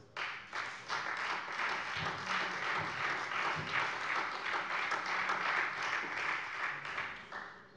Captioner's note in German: Beifall Freie Demokraten und vereinzelt SPD